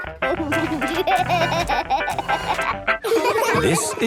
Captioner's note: upbeat music; giggling